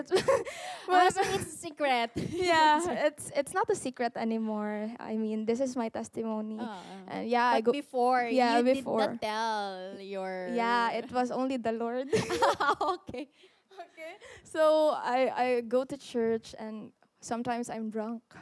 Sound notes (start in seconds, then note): 12.1 laughter